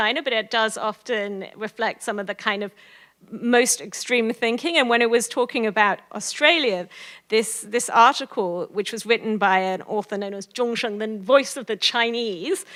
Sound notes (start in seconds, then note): 9.7 foreign language